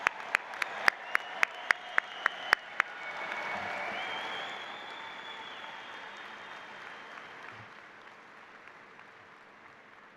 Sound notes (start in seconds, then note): 0.0 applause